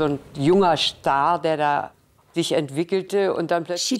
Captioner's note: French